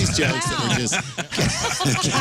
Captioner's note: laughing